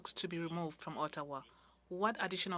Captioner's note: speaking French